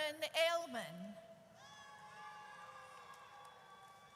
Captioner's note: audience cheers